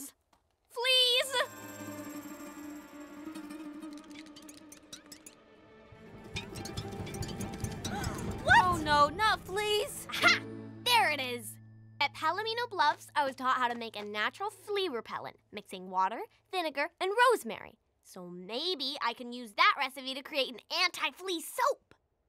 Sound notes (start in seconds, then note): 3.3 chittering; 7.9 gasping